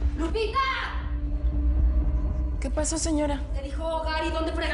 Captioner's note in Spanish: A gritos